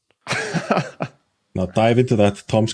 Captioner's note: chuckles